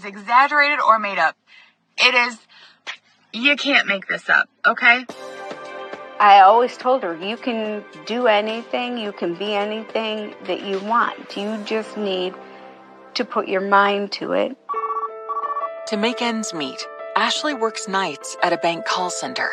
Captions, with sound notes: nono of f is i iexagagratete madadup.. You can be anything that you want. You just need to put your mind to it. [phone rings] - To make ends meet,